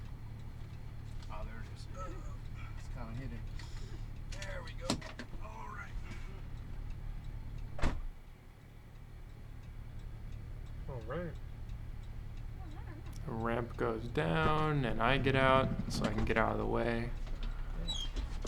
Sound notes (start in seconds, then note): 4.7 seatbelt drops on floor; 7.6 driver's door shuts; 18.3 ramp slams on ground